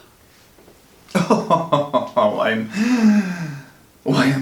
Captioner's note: laughs